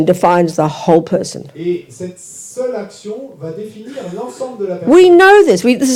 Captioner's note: French